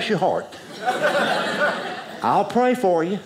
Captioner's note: audience laughing